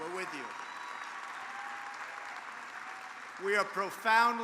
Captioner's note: applause